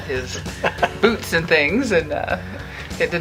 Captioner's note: laughing